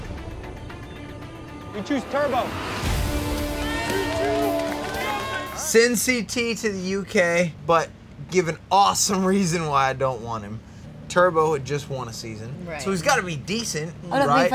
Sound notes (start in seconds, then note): 5.0 cheering